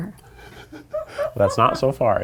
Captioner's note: people laughing